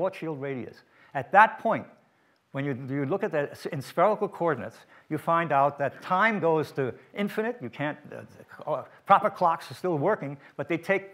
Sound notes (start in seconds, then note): none